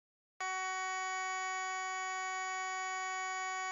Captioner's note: alarm buzzing